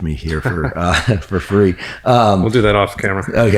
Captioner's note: chuckles; laughs